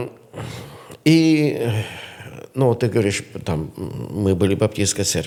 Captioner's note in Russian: фыркает